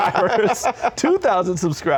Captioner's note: laughter